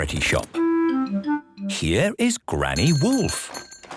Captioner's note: bell jingling